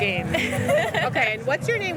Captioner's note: laughter